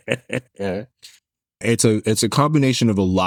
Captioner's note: laughs